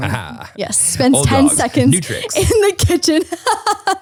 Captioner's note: laughs